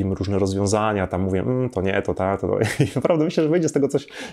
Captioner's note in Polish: śmiech